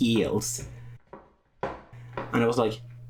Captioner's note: sound of high heels